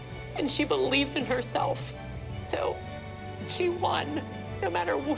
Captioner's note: tearfully